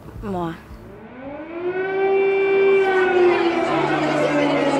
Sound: siren blares

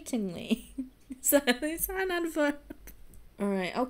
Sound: laughing

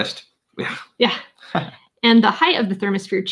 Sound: chuckling

